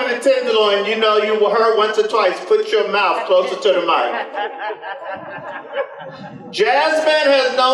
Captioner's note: laughter